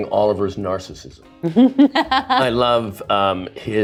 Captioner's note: laughs